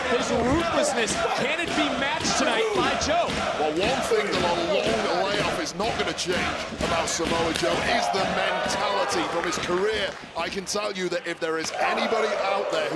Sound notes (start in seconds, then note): 2.1 audience chanting "joe, joe"